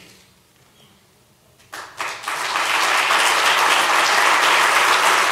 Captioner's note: applause